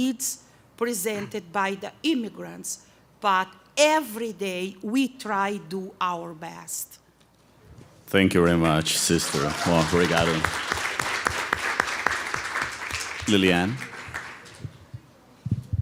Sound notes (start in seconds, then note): 8.7 applause